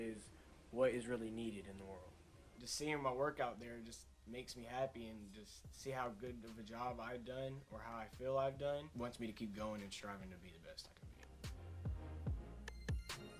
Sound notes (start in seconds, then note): none